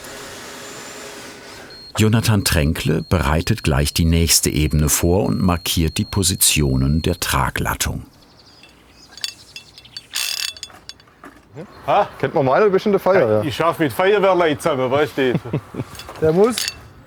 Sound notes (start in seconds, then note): 0.2 whirring; 9.1 short ratcheting